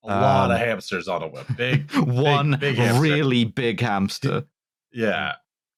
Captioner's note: laughs